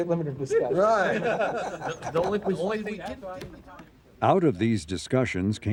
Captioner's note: crowd laughs